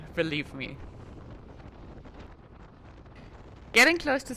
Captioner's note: wind whooshing